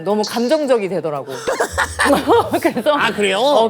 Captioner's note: hahaha